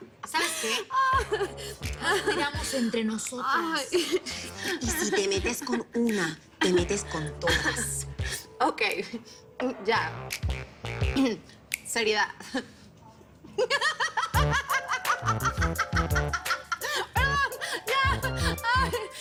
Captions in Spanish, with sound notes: - ¿SABES QUÉ? NOS CUIDAMOS ENTRE NOSOTRAS. - Y SI TE METES CON UNA, TE METES CON TODAS. - OK. YA... SERIEDAD. [Risas] YA, YA...